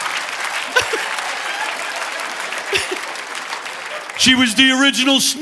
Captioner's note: audience laughing; laughing